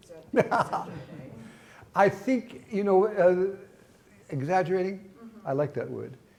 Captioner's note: laughing